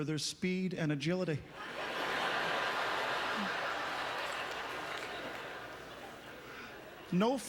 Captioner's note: audience laughter